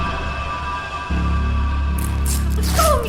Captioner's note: ripping cloth